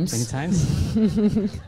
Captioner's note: laughs